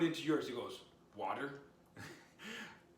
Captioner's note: chuckles